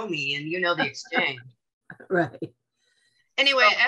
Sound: chuckles

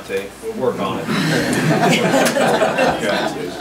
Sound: group laughs

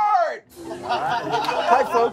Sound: laughter

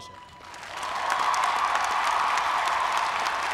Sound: applause

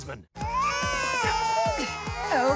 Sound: babies crying

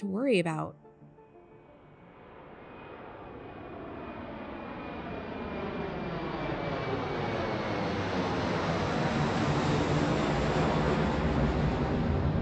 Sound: music fades, airplane takes off

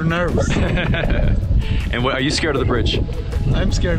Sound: laughing

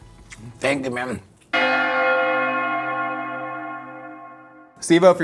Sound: bells Ringing

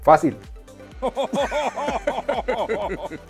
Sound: Laughs in muppet

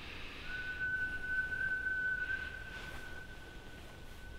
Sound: whistle

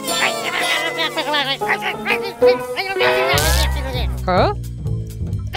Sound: cheers; grumbling

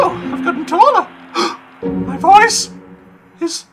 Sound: gasp

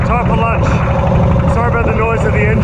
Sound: engine rumbles

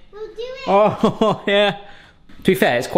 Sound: laughing

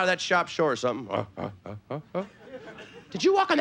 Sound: playful grunting

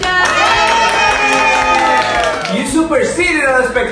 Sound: clapping

